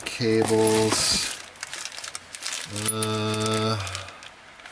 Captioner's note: plastic rustling